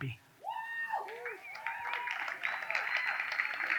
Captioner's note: audience cheers